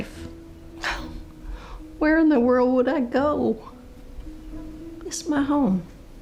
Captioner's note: scoffs